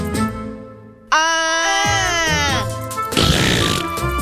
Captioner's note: yelling